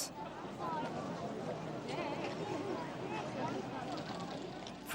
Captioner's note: crowds chattering